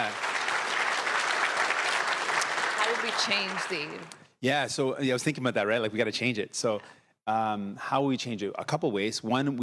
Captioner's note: applause